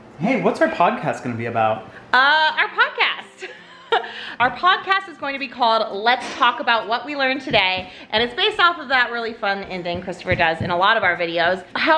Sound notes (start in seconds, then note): 3.8 laughs